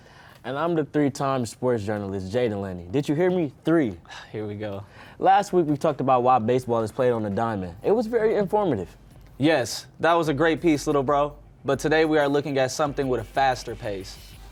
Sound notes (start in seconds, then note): 4.4 sighing